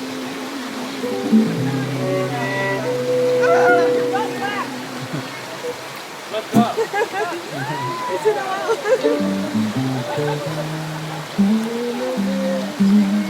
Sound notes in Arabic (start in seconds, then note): 4.4 يصرخ ويضحك